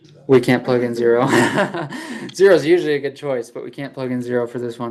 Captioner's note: laughs